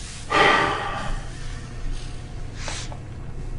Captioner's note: sighing